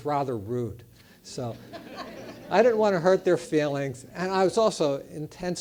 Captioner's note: laugh